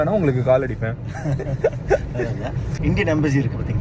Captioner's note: group laughs